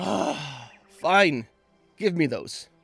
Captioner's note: big sigh of resignation